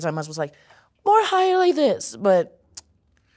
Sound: voice high-pitched

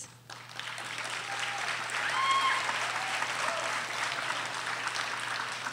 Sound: audience applauding

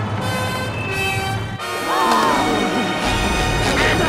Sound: gasping

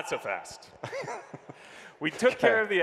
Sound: chuckles

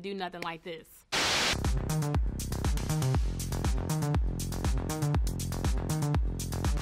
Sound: TV static hisses; up-tempo dance music

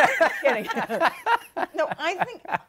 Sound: laughs

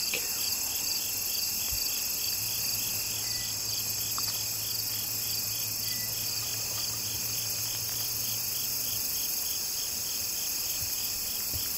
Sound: crickets chirping

